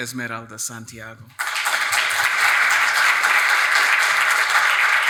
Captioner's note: attendees applauding